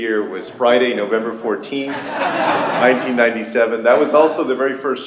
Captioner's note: laughter